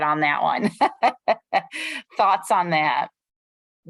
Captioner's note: laughter